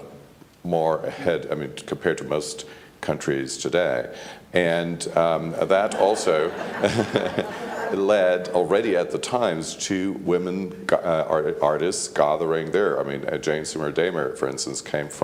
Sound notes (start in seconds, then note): 4.4 laughs; 5.9 laughs